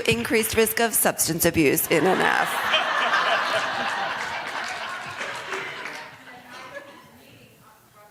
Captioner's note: laughter